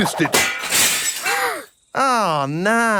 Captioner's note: shatters